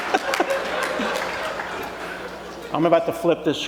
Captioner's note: laughter